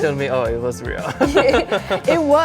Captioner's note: laughing